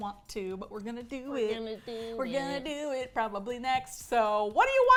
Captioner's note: singsong